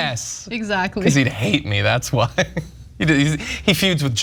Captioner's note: laugh